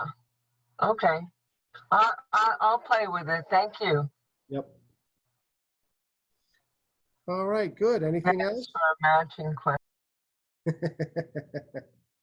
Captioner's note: laughter